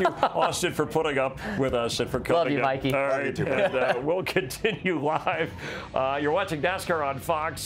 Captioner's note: laughter